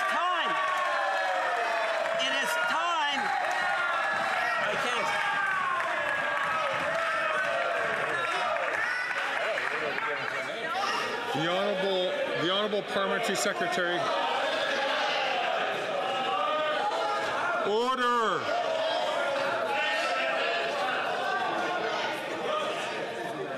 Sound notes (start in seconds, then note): 10.3 some Applause